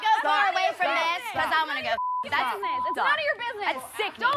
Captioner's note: beep